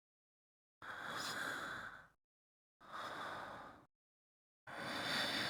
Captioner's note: sleeping breathing